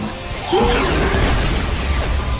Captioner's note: roars